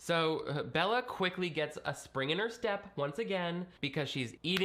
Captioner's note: none